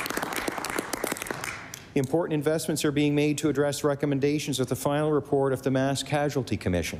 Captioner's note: applause